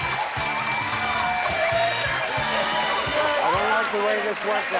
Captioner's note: fun music; cheering